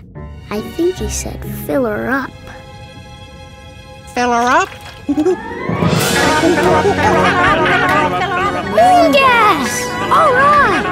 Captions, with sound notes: I think he said fill 'er up. Fill 'er up? [monkey noises] Moon gas, all right!